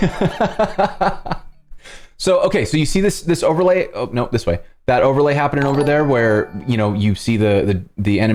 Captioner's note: laughter